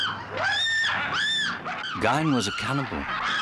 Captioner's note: screaming